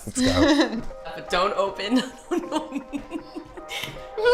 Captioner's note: laughs